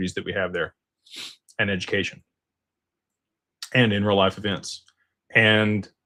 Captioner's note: snorts